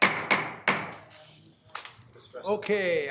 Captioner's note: gavel banging